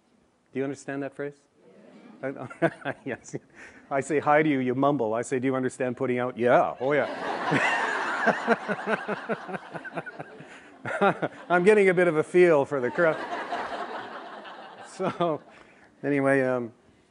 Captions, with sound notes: "Do you understand that phrase? (AUDIENCE MURMURS ASSENT) (LAUGHS) Yes. I say hi to you, you mumble. I say, "Do you understand putting out?" "Yeah! Oh, yeah." - (LAUGHTER) - (LAUGHS) I'm getting a bit of a feel for the crowd. So... Anyway, um...